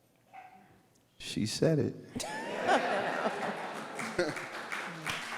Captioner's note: all laugh